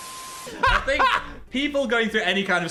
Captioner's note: Dan laughing